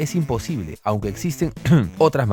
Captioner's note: cof cof